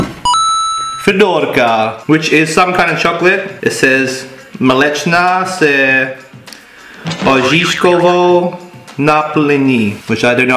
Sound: czech words

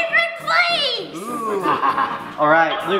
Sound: laughs

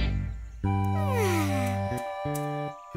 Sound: yawning

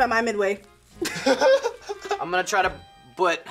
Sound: both laugh

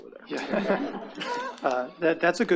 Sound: attendees laughing

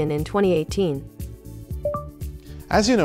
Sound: low beep

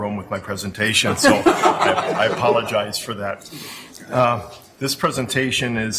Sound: laughing

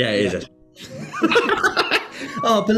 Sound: laughter

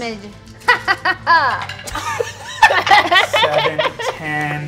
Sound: players laughing

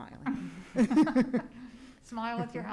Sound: laughing

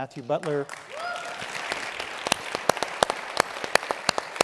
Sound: audience applauding

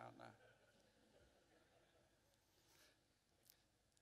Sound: laughter

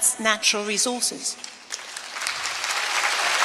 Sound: applause

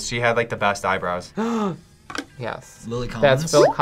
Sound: gasps

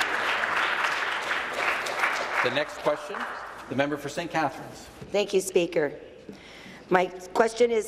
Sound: applause

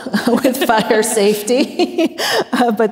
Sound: everyone laughs

